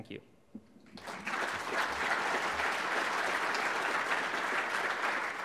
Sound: audience applauds

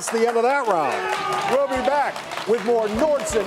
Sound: crowd cheering

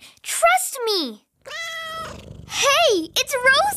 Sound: cat meows and purrs

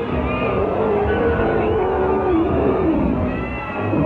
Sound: King Kong Growls

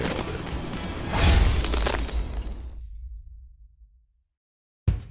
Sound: shattering

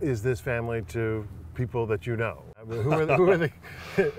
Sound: chuckles

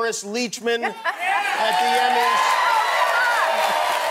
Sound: applause and cheering

